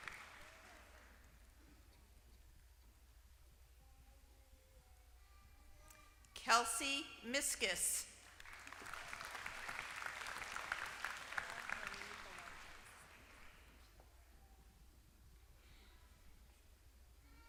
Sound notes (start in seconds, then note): 8.2 applause